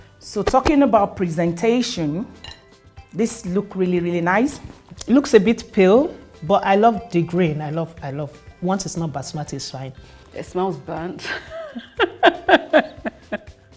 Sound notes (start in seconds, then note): 11.5 laughs